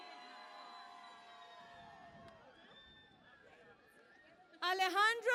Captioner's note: cheering and Applause